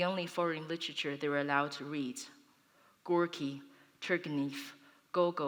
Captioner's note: foreign language